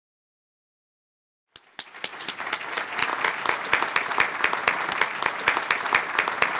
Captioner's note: applause